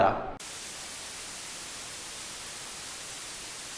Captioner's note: static